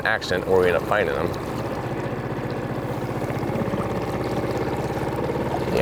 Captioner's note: boat motor trolling